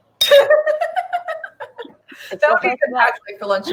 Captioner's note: laughing